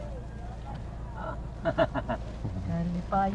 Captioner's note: laughs